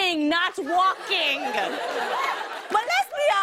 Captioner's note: laughter and applause